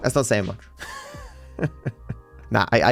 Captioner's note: laughs